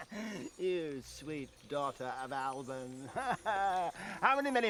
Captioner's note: laughs